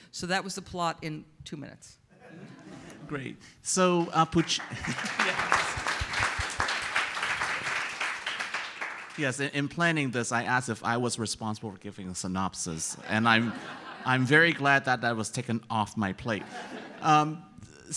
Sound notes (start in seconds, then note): 2.2 audience laughs; 3.9 audience applauds; 12.9 audience laughs